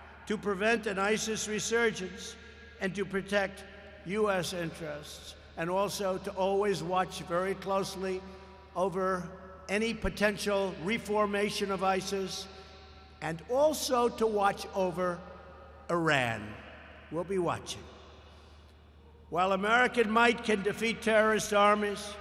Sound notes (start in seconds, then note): none